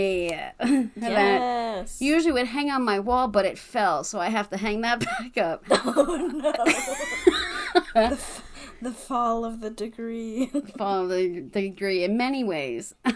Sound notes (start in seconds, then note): 5.7 laugh